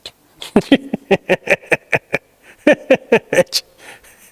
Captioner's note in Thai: เสียงหัวเราะ